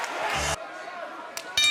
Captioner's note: audience cheering